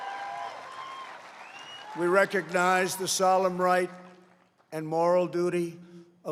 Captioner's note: applause